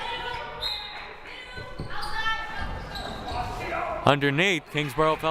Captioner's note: whistle blaring